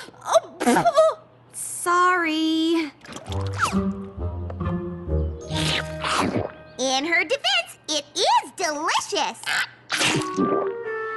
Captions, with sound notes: Oh! Sorry! [slurp] In her defense, it is delicious. [chomp]